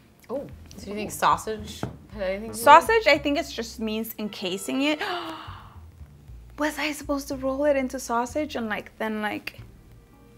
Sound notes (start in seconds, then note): 4.9 gasping